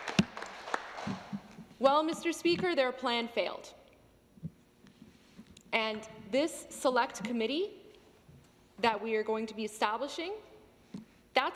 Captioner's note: some Applause